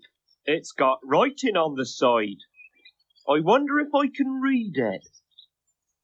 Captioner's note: none